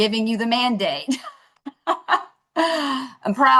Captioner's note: laughter